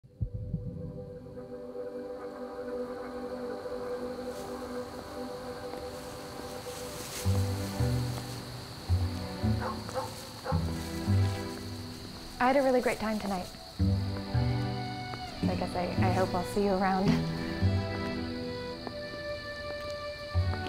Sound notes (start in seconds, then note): 5.8 footsteps; 9.5 dog barking